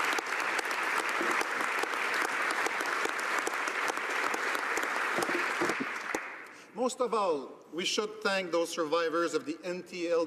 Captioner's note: applause